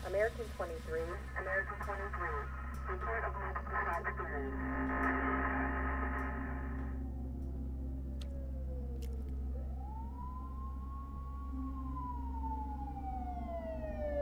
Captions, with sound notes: American 23, American 23... *Siren*